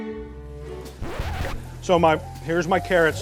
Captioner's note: record Scratch